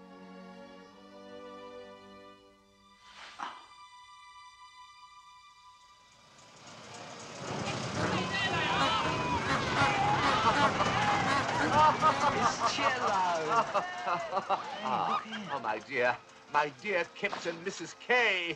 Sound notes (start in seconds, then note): 6.8 noise of carnival crowd; 10.2 horn honks